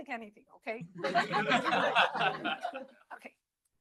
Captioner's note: laughter